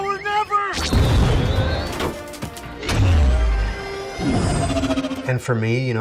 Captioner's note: cannons firing, explosions